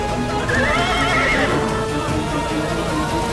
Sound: horse neighing

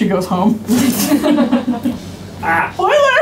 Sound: laughs

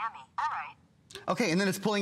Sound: electronic voice

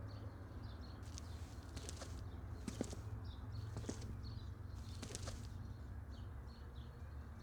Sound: footsteps

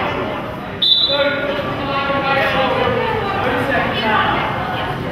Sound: whistle blows

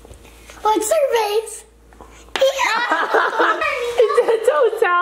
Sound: everyone laughs

